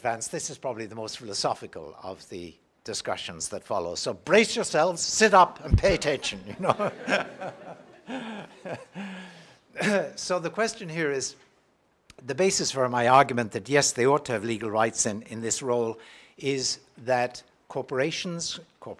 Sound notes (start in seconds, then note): 6.4 laugh